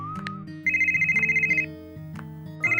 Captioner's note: phone rings